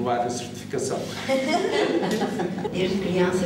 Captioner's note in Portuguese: risos